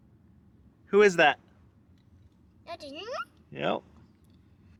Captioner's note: vocalizing